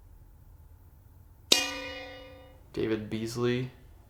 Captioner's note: bell dings